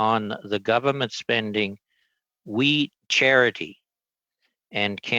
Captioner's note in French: voix de l'interprète